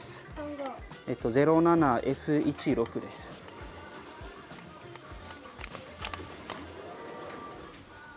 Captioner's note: Speaking Japanese